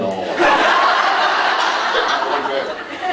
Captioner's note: laughs